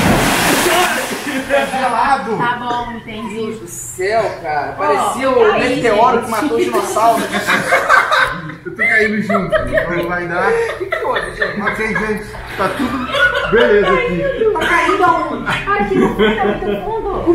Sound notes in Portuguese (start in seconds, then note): 6.7 risadas